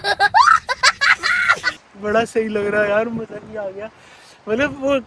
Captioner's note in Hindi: हंसी